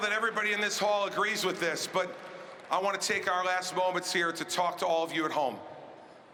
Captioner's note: cheering and applause